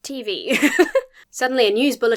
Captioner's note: giggles